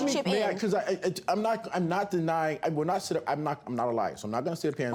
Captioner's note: stammers